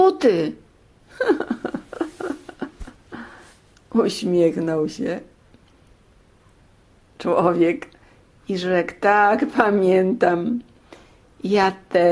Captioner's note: laughter